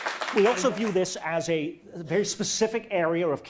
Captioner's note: audience applause